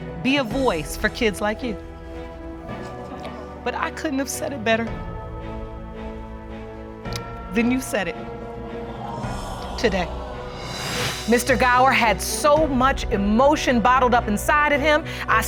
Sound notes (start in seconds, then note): 3.6 voice breaks; 7.1 clicks tongue; 9.3 audience exclaim